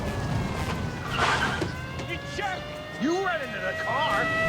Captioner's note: car squealing